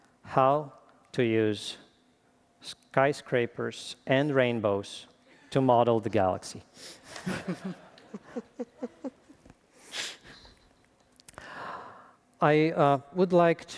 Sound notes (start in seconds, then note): 7.0 laughter